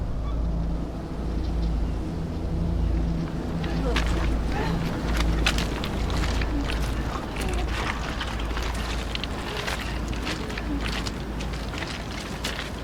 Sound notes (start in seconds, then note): 4.1 woman gasping